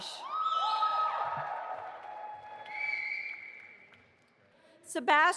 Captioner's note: audience applauding and cheering